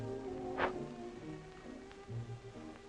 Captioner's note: blows